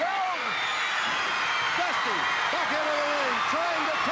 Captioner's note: crowd cheering